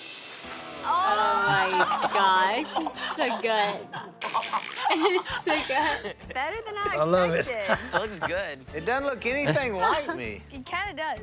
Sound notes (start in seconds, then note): 3.7 all laughing; 7.3 laughter